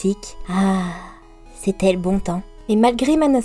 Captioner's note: sigh